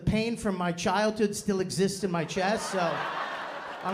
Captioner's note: laughter